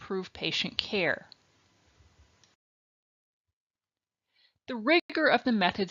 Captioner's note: silence